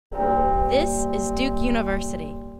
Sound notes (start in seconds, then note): 0.1 bell tolls